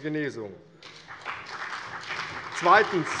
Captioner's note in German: Beifall CDU, BÜNDNIS 90/DIE GRÜNEN, vereinzelt SPD und Freie Demokraten